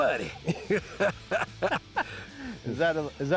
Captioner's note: laughs